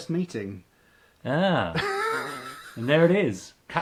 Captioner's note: laughing